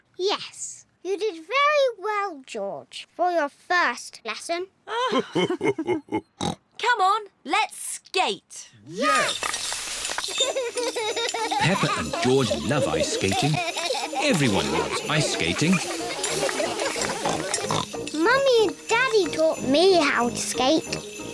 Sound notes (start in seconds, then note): 4.9 both laugh; 10.4 laughs; 15.8 snorts